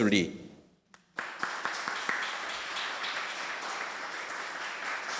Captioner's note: audience applauding